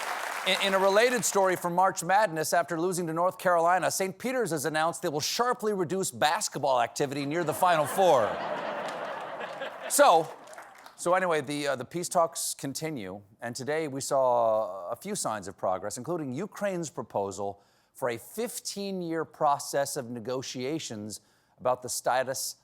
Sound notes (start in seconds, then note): 0.0 applause; 7.4 laughter